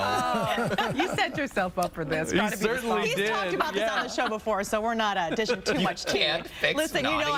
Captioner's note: laughter